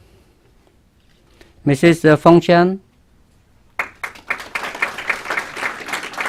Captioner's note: clapping